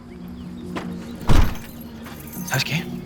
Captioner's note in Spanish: Ruido al cerrar la cajuela